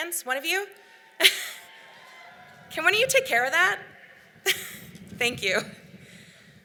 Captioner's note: laughs